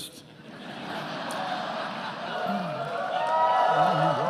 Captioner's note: attendees laughing